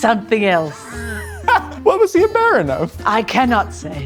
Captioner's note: laughing